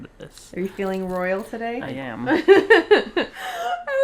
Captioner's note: laughs